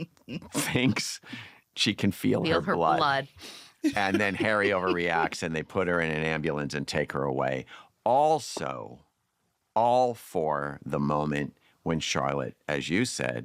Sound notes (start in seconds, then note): 0.0 laughter; 3.8 laughter